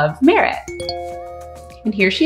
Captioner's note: computer chimes